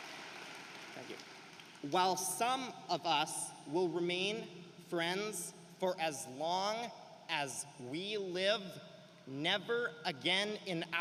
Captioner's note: cheering and applause